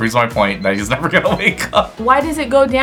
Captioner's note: laughs